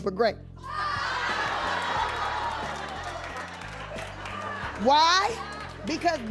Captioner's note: audience cheering